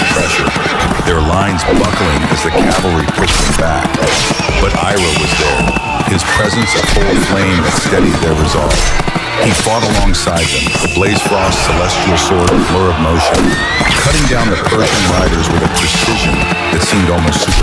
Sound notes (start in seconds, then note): 5.2 shouting